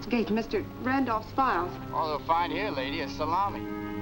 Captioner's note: on phone